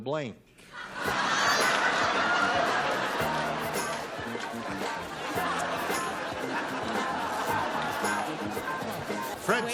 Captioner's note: laughter